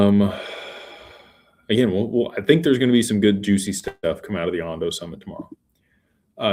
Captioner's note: sighs